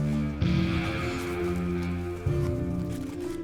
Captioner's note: footsteps